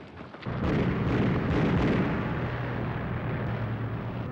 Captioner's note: guns firing